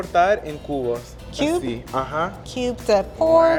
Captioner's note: speaking Spanish